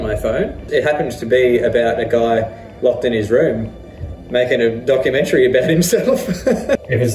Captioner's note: laughs